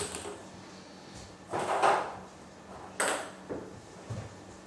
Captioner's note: ball ping pong hitting continues